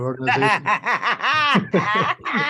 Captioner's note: laughter